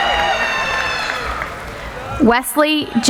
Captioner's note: cheering